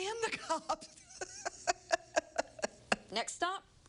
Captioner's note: laughs